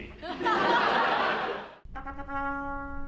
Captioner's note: laughter